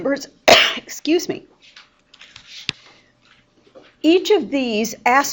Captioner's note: teacher sneezes